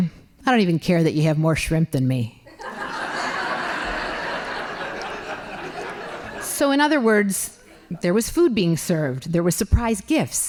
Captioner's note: laughing